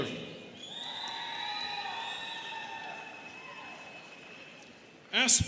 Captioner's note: students cheering